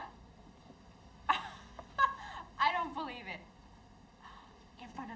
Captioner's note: laughs